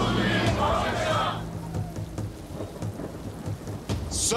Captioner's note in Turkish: Hep bir ağızdan; Gök gürlüyor